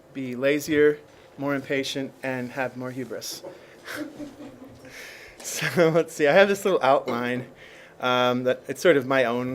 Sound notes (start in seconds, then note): 5.3 laughs